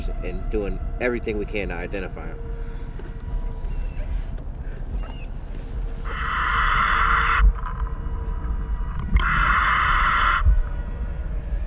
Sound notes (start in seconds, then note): 2.6 birds chirping; 2.6 ominous music continues; 6.4 mouthpiece hissing; 6.4 ominous music continues